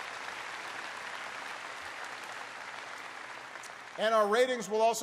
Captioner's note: applause